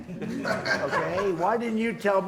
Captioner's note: laughter